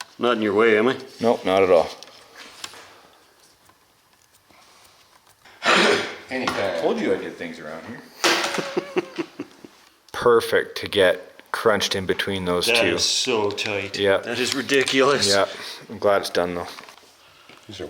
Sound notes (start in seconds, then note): 8.3 laughing